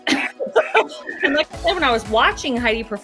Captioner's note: laughter